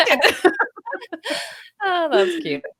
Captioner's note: laughing